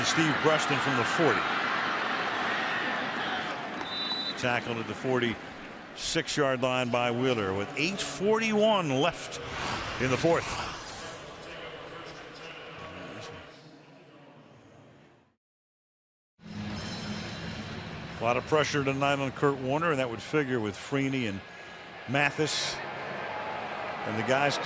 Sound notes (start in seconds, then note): 11.9 pa announcement